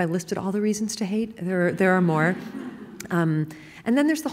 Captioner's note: laughing